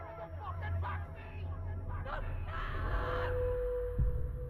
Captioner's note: screaming